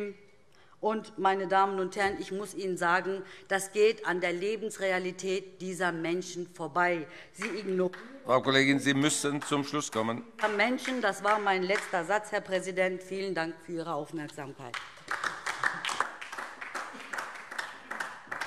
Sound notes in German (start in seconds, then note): 7.4 Beifall DIE LINKE; 14.7 Beifall DIE LINKE